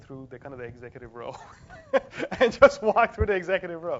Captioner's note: laugh